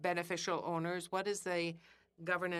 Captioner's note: speaking in French